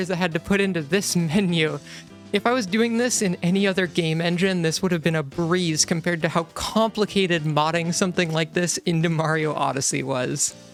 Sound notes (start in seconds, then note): none